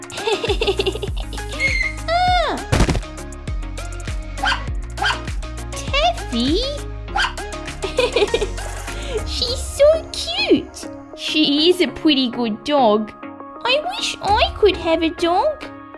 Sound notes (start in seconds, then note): 2.7 thud!; 4.4 bark! Bark!; 7.1 bark!